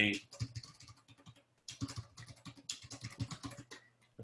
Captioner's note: typing Sounds